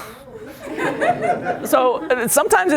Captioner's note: laughter